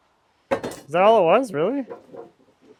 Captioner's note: square clattering